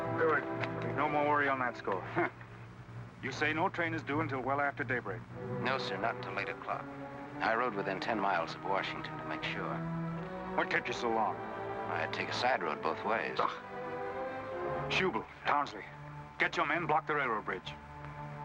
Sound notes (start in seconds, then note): 13.3 scoffs